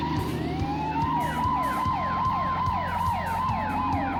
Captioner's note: sirens wail